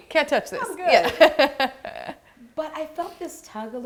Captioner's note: laughing